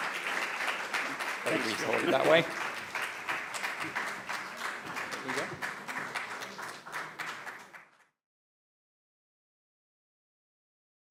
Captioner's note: applause